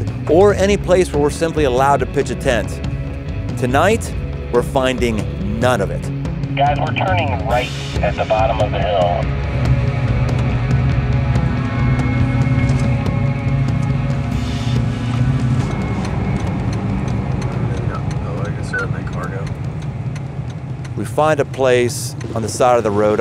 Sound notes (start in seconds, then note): 6.4 voice on Radio; 10.4 motorcycles revving